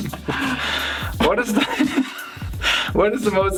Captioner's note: chuckling